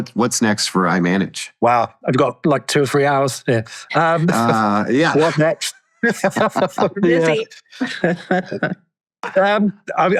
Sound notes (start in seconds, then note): 6.0 laughs